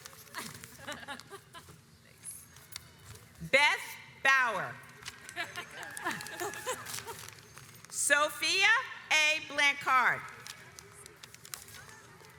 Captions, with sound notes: Beth Bauer (audience applauds) Sofia A Blanchard